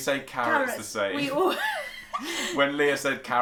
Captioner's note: laughs